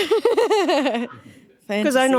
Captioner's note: laughing